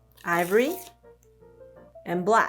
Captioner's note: card ripping